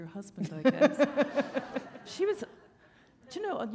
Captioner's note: laughter